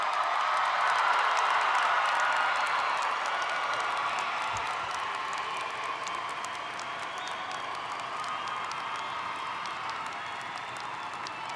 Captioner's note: cheering